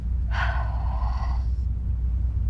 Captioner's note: sighs